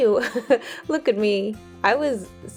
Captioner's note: chuckles